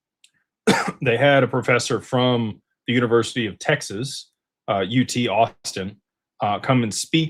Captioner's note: clears throat